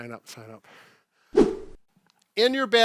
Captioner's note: air whooshes